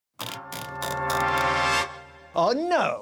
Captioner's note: typewriter knob whirring